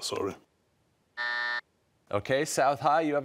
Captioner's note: buzzer